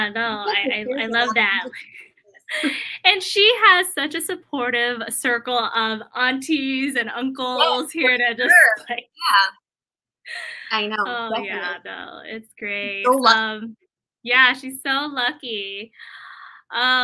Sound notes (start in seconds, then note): 10.0 laughter